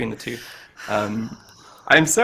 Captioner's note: sighs